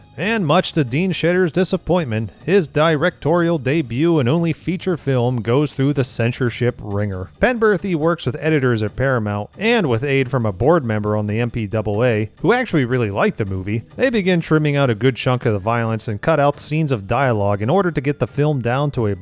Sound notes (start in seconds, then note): none